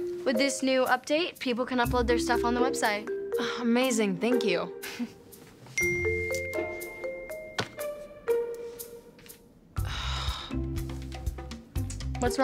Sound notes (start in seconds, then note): 5.8 cell phone rings; 9.8 Rooney sighing